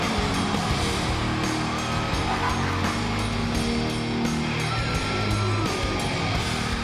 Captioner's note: upbeat music continues; audience continues cheering